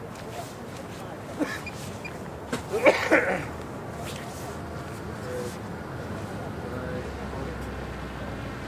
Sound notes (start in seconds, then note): 2.6 coughing; 4.5 wind blowing